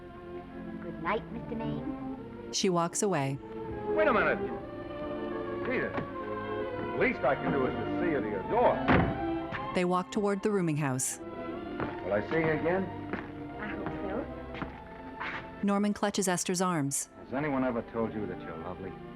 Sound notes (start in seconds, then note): 8.8 car door slamming; 10.0 dreamy music